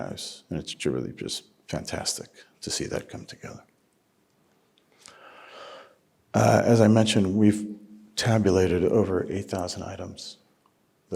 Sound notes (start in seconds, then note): none